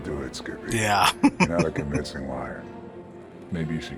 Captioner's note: chuckling